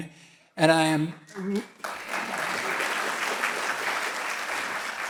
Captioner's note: audience clapping